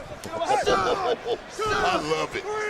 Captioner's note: laughs